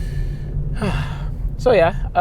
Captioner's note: sighs